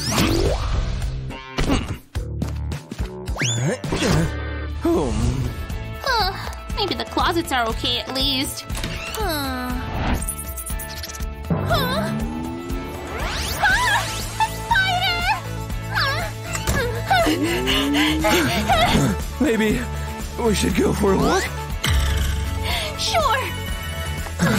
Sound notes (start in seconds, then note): 17.1 heavily breathing